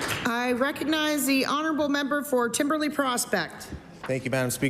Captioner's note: applause